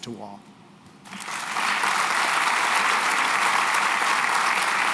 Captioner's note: applause